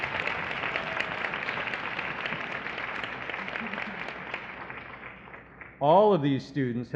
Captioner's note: applause